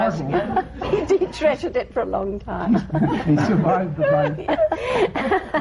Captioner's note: laughter